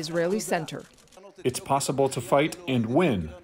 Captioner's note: through translator